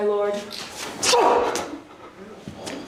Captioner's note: pained grunt